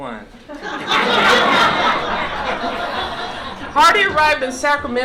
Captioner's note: laughter